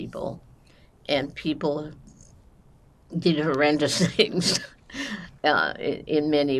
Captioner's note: laughing